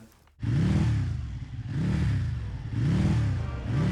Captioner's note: engine revving